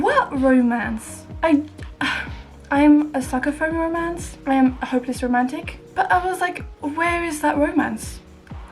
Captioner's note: sigh